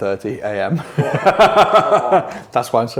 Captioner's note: all laugh